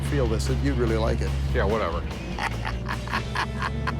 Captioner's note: laughs